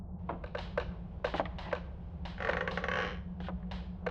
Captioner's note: footsteps